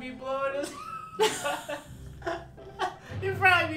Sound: laughing

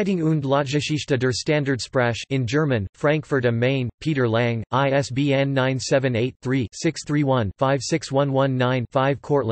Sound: in German

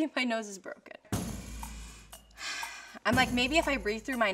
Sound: deep breath

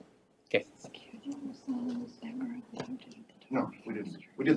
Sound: unknown female speaker whispers

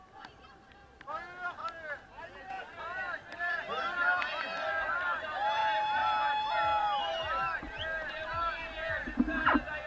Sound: shouts of cyclists

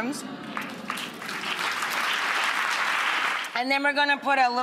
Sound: applause

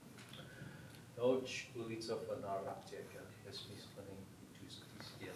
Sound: speaking foreign language

